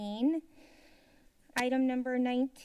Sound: silence

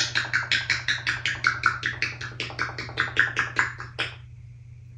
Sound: lip smacking sounds

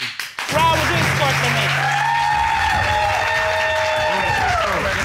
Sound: audience applauding

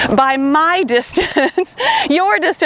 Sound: laughs

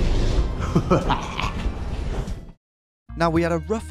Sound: laughing

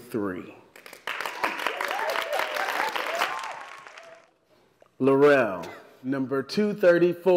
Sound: applause

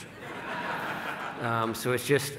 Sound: laughing

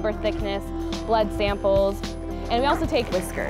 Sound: groans

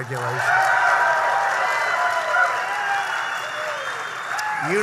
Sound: applause

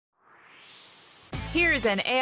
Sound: swoosh

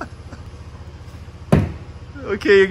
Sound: laughs; thud

